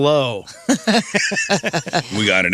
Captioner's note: laughing